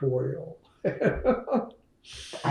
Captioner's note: laughs